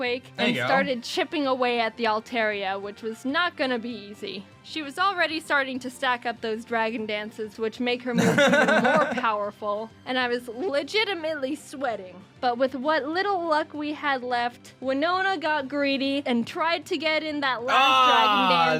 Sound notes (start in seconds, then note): 8.1 laughs